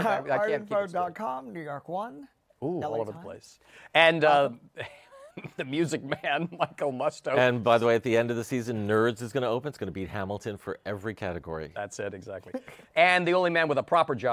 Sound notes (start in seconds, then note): 4.1 laughs